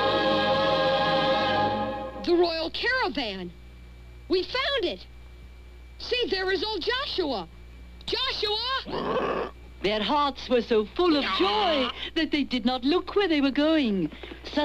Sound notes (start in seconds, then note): 8.8 raa-aah